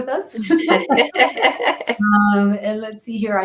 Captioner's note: laughter